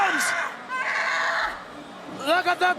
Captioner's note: Meiko screams